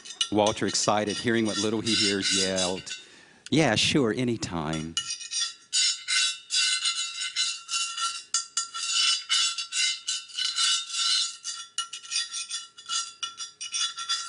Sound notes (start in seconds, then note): 4.1 scraping noises